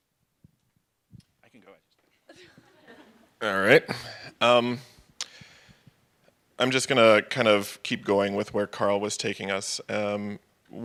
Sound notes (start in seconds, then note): 2.2 laughter